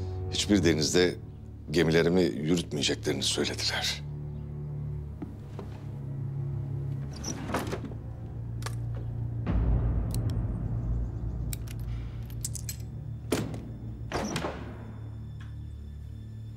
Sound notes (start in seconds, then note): 6.9 drawer opening sound; 13.2 drawer closing sound